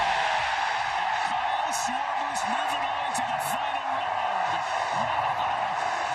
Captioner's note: booing; cheering